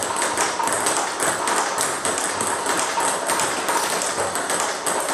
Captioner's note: ball ping pong hitting continues